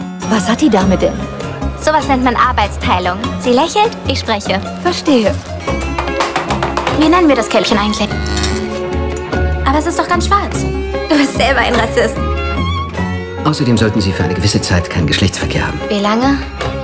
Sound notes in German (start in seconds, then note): 5.7 Stampfen